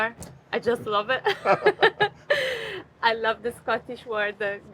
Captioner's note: both laugh